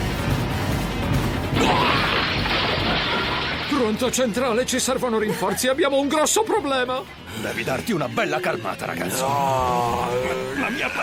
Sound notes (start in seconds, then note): 2.0 loud crashing; 9.1 barbaric snarling